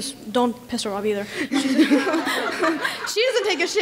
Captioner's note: laughing